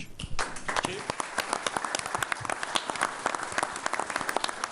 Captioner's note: all applauding